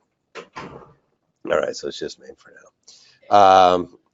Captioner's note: door closes